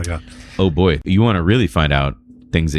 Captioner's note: uh